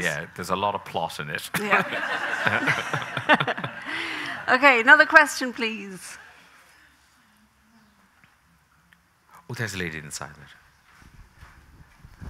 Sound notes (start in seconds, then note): 1.6 laughs; 1.6 audience laughing; 3.1 laughing